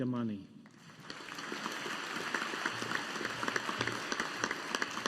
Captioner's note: audience applauding